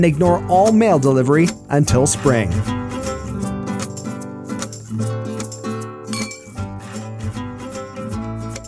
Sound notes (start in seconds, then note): 6.1 clink